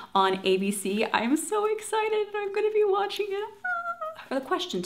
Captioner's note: squeals